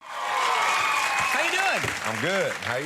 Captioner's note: audience cheers